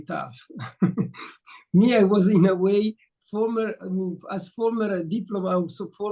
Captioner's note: chuckles